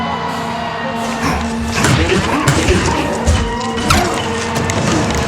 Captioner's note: sirens blaring